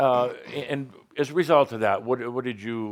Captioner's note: chuckles